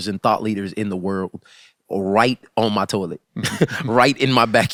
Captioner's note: laughs